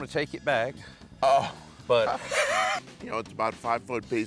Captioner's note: laughs